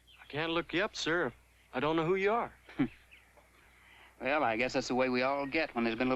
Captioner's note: none